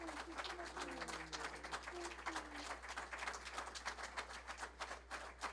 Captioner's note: applause